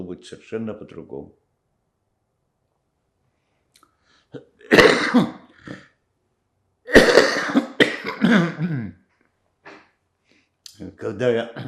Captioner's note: coughing